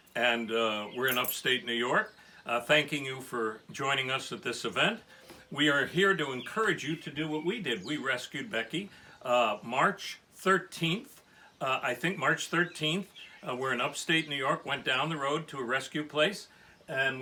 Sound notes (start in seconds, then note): none